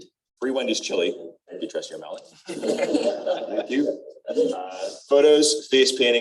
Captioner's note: laughter